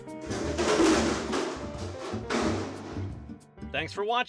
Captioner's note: crashing